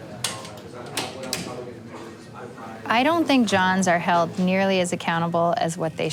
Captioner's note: talking in background